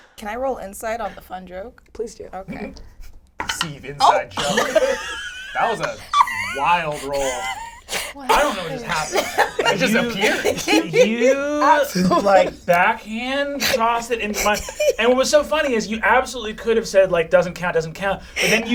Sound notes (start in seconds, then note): 7.4 laughs